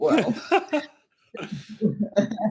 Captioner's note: chuckle